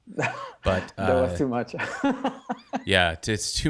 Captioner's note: laughs